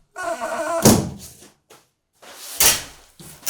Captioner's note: door creaking